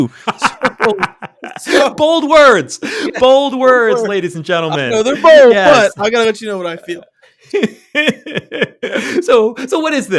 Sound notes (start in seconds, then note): 9.2 laughter